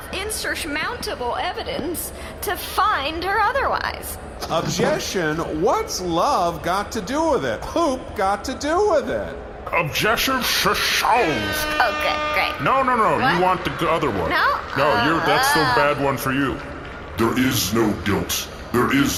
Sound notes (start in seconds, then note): 10.5 air horn